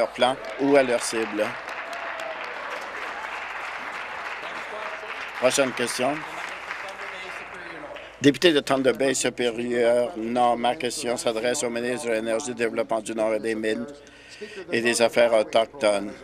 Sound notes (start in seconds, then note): 4.1 applause